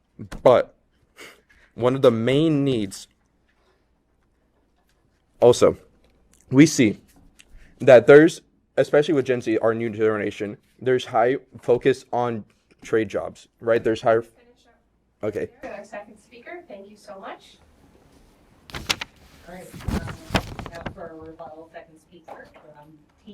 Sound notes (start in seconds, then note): 18.6 paper rustles